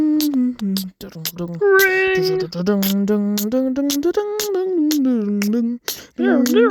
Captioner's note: epic beatboxing; more epic beatboxing